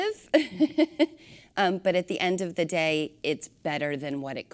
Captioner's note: laughter